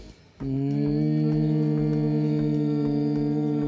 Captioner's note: humming